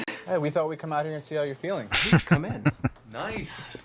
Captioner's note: laughing